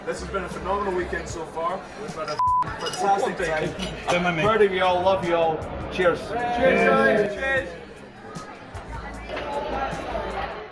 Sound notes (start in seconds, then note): 6.3 cheering